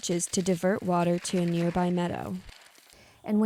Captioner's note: gravel rattles